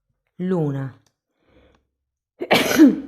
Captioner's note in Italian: tosse